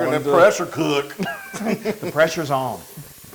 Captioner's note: laugh